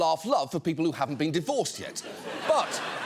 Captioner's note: audience laughing